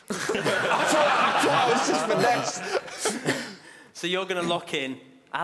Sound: laughing; shouting

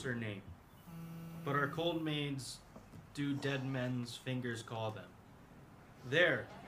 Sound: phone buzzes

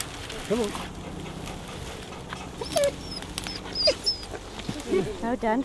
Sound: dog panting and whining

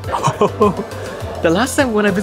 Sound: chuckles

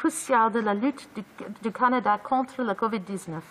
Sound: speaking in French

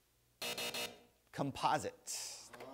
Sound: buzzer

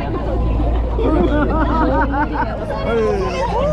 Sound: laughing

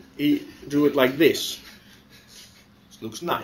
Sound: pause

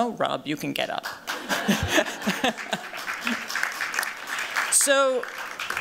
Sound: applause

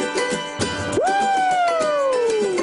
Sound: screaming

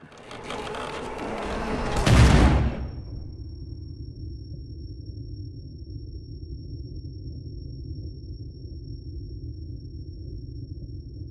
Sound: gunshot, then a faint ringing sound

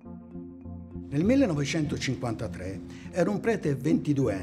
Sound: speaking italian

